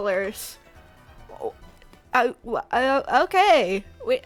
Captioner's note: confusion noises